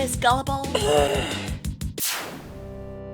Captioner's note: frustration noises